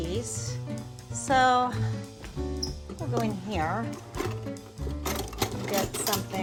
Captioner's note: silverware clinking